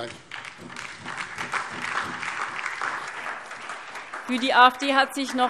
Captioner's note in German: Beifall DIE LINKE und SPD